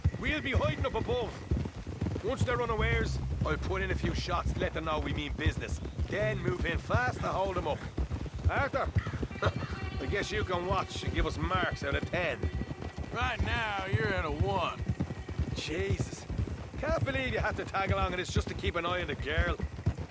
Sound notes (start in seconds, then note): 8.5 laughs